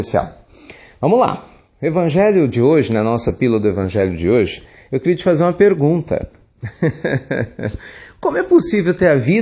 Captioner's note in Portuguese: risos